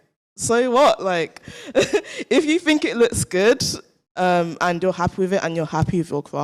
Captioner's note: chuckles